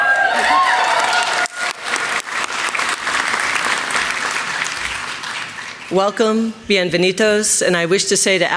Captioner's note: applause